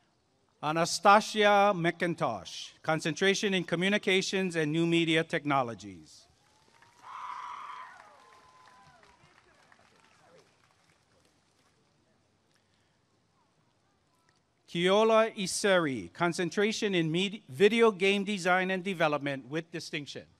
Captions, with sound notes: Anastazia McIntosh Concentration in Communications and New Media Technologies [applause and cheering] Keola Iseri Concentration in Video Game Design and Development with Distinction